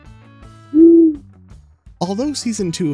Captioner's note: owl hoots